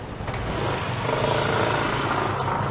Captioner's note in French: motorbike leaving